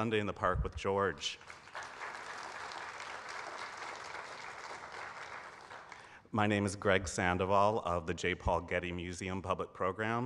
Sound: applause

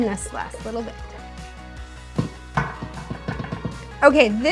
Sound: container thumping

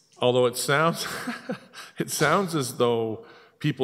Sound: laughs

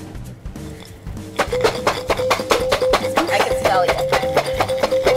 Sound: ringing

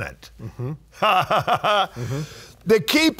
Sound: laughing

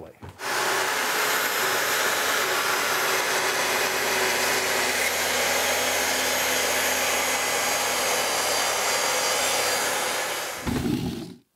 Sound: track saw whirling

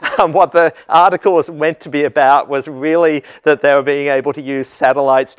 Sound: laugh

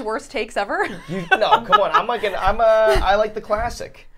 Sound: laughing

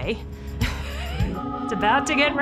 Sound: laughs

